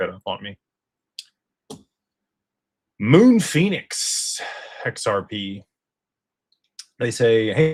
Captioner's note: sighs and gasps